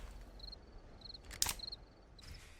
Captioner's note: gun clicks